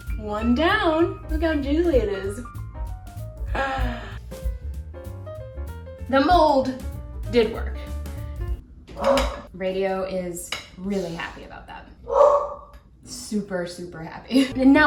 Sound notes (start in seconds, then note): 4.4 jazzy music; 9.0 barking; 12.0 barking